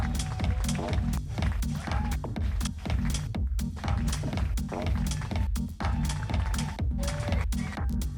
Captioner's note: applause; applause